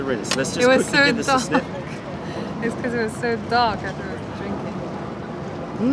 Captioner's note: laughter